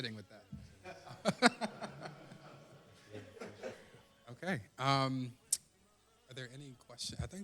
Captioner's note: laughter